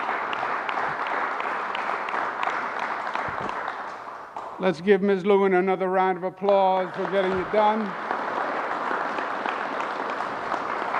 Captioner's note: applause